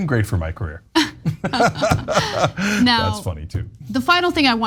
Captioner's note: laugh